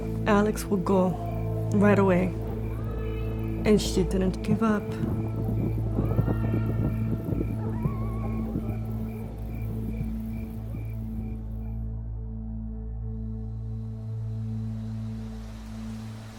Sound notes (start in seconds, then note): 6.7 wolves howling & thunder; 8.9 gentle music